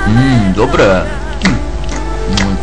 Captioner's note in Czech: Mláská